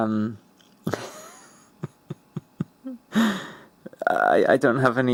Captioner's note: laughs